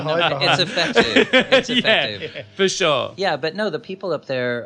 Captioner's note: laughs